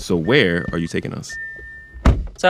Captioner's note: soundbite of car door closing